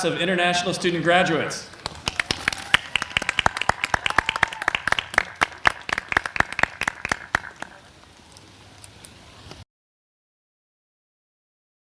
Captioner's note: applause